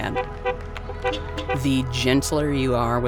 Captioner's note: horns beeping